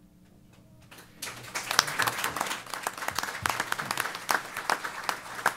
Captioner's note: applause